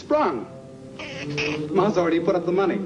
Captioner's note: hamster squeaking